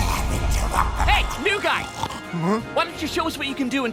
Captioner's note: snoring